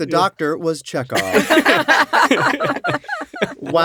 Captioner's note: laughter